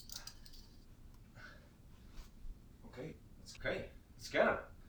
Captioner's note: metals clings